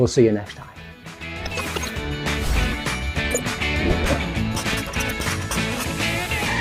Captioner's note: air whooshes; upbeat music